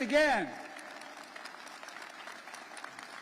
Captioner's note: applause